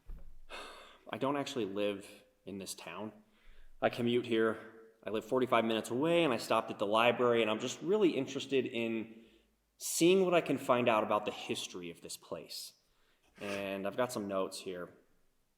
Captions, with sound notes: (sighs) I don't actually live in this town. I commute here. I live 45 minutes away, and I stopped at the library and I'm just really interested in seeing what I can find out about the history of this place. And I've got some notes here.